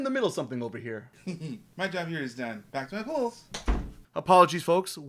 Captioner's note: door Slams